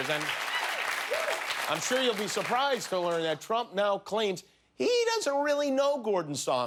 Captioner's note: cheers and applause